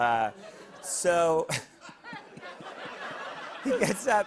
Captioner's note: laughter